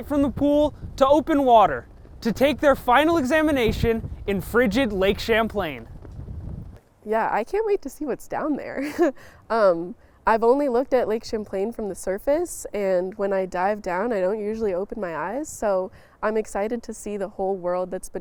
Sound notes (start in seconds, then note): 8.8 chuckles